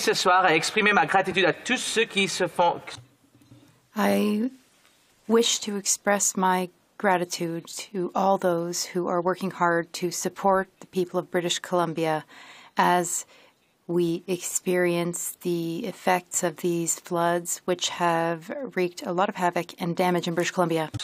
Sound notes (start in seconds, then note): 4.7 speaking French